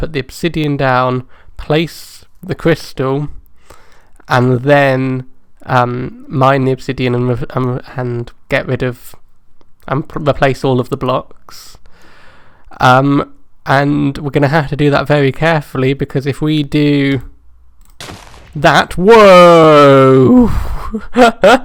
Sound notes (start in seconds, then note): 18.0 boom!; 19.7 haha